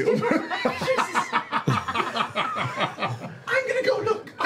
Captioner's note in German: Gelächter